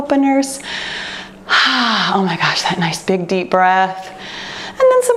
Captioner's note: exhales